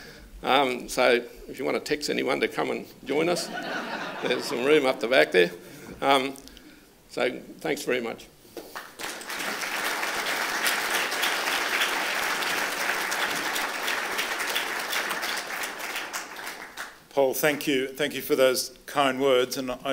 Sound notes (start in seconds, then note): 8.7 applause